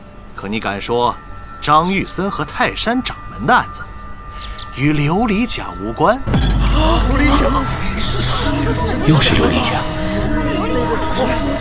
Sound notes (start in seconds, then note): none